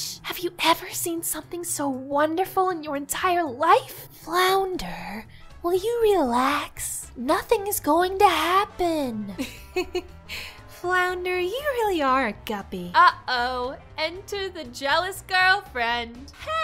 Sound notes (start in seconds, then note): 9.4 laughter